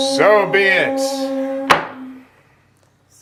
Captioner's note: all toning; hammer strike